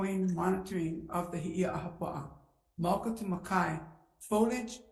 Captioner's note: speaking in foreign language